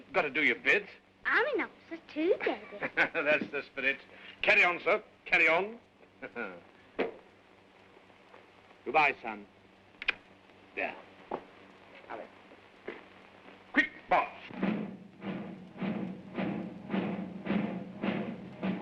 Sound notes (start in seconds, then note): 2.4 chuckles; 10.0 kiss smooches; 15.4 rhythmic drum beat